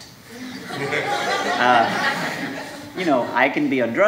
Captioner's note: audience laughing